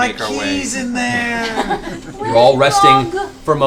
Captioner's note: laughter